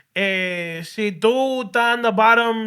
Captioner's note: speaking Spanish